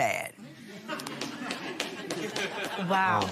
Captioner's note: laughter